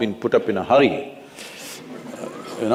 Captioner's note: few Laugh